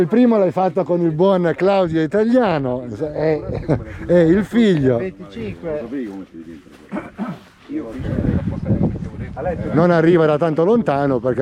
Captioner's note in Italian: schiarire la voce